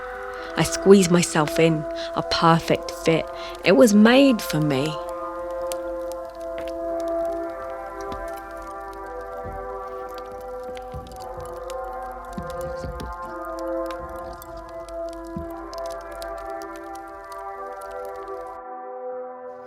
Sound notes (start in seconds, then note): 6.7 soft crackling